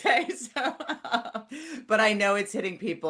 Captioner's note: laughs